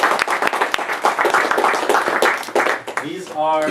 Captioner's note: applause